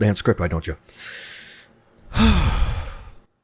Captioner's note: exhales